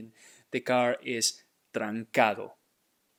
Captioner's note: speaking in Spanish